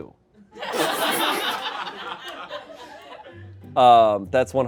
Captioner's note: everyone laughs